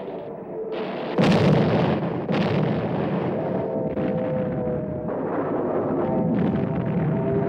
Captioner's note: explosions